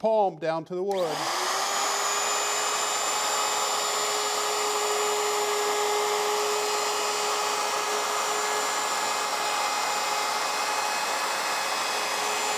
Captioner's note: router whirs